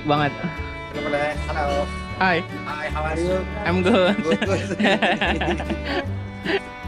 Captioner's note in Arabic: يضحك